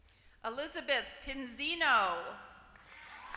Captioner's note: applause